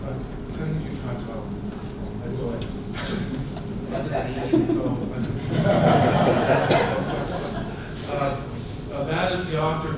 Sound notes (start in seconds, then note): 3.0 laughter